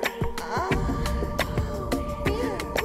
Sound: woman moans

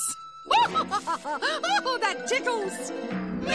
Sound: laughs

